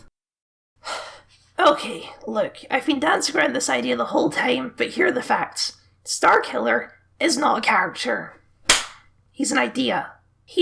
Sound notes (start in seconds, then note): 0.8 sigh; 8.7 clap